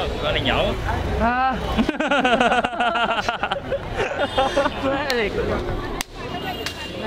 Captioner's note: laughter